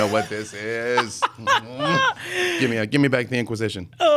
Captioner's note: laughing